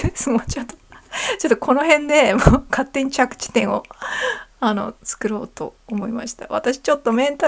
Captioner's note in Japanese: 笑い